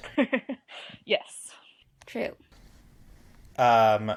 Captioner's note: laugh